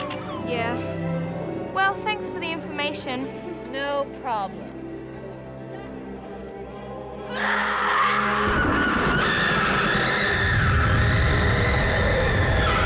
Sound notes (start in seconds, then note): 7.2 screams